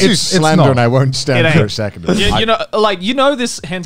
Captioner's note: murmurs